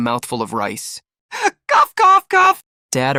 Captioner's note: cough cough cough